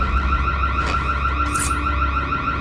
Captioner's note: knife sounds